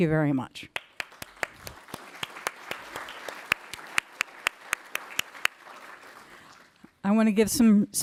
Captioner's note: applause